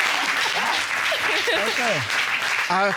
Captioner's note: all laugh, applaud; chuckles